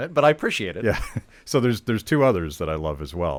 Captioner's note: chuckling